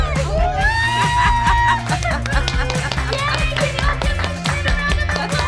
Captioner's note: group clapping and cheering; cheering and laughing; pop music